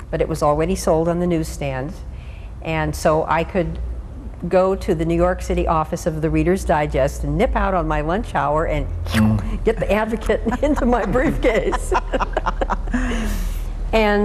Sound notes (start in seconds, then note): 9.1 slurps; 12.1 laughs